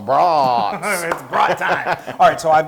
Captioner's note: laugh